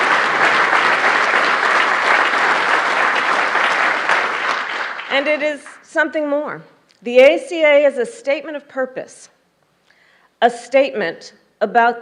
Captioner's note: applause